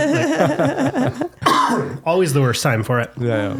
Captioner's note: laughing